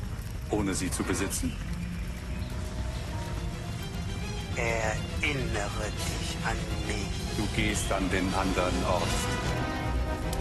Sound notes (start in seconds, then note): 1.0 flames roar; 2.0 birds tweeting; 9.2 rising music